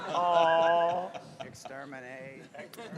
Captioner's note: awwww